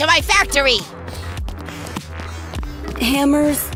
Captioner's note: running sounds